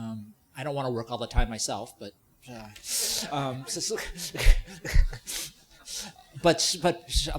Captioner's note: laughing